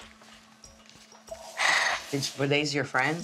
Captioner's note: sighs